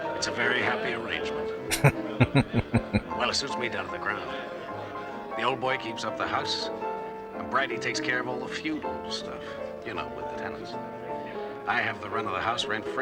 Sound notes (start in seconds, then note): 1.7 chuckling